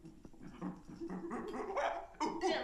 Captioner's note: imitates monkey chattering